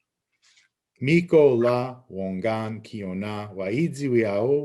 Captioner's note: speaking Abenaki